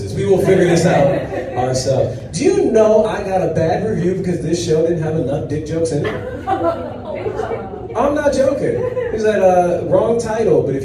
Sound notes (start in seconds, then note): 5.6 audience chatter in disbelief